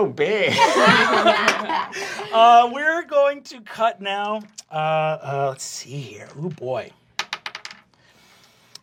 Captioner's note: laughs